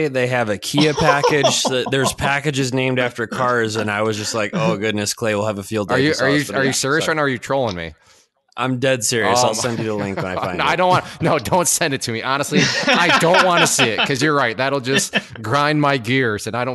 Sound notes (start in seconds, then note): 0.6 laughing; 9.2 laughing; 12.3 laughs